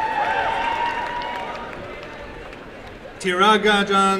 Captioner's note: applause and cheering